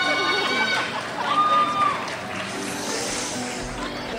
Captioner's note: crowd shouts